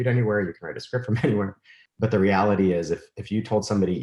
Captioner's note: chuckles